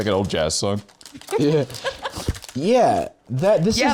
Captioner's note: laughs